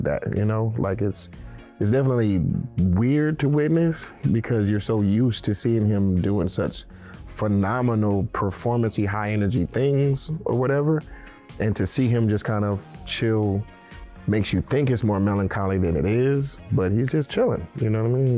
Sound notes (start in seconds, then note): none